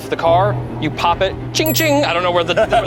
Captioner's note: bell chimes